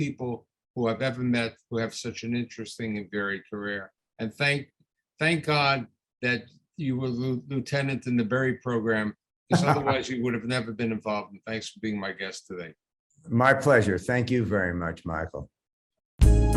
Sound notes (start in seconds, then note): 9.5 laughs; 16.2 theme Music